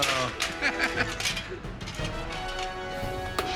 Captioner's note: laughter